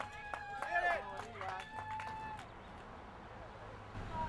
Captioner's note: cheering